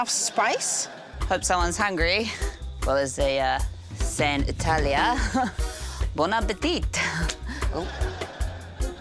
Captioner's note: chuckles